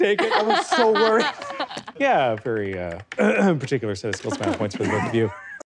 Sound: clears throat

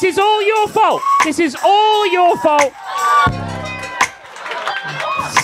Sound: audience cheering

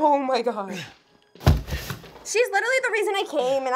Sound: body thumps

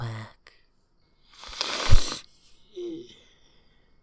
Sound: sniffs with a smile

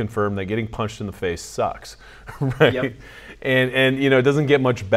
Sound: chuckles

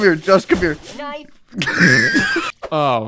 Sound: wheezing

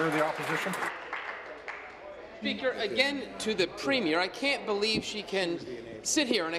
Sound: applause

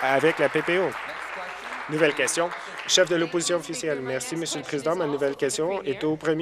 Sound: applause

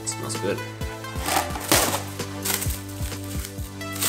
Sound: wrap crackles and pops; wrap crackles

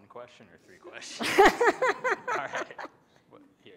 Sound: laughter

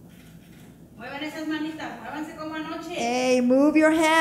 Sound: speaking in foreign language

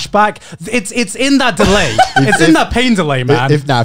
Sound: laughing

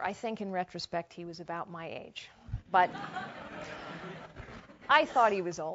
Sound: laugh

